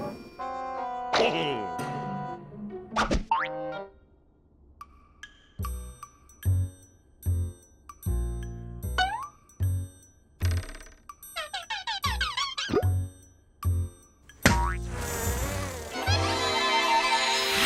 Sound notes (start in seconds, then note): 0.9 chuckles